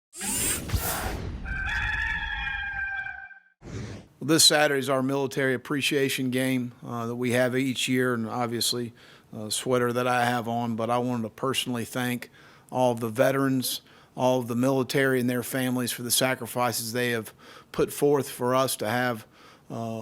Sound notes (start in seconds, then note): 0.2 electric transition sounds; 1.4 cock crowing; 3.6 air whooshing